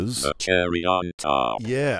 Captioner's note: robot Voice